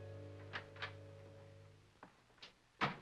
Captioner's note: door opens; door closes